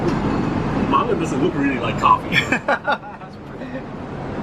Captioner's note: light laugh